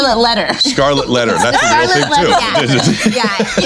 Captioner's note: chuckles